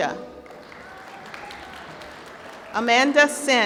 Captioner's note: applause